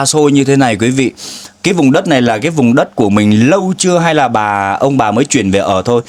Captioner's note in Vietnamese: khịt mũi